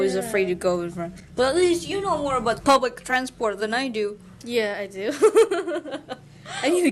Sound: huehuehuehue

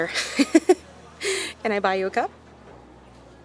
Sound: chuckles

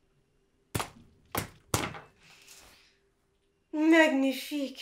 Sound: hammer thudding

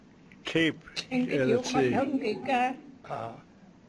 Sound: non-english speech

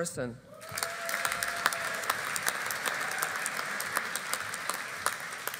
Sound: audience applauding

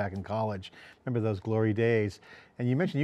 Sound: chuckles

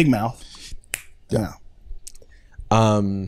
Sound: snaps fingers

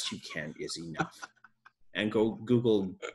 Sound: laughs

